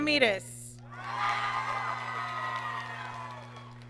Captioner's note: applause